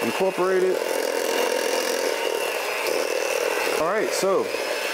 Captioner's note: hand mixer whirring